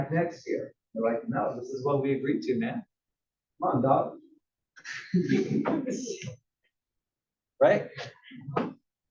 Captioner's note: laugh